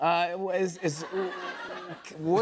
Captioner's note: laughter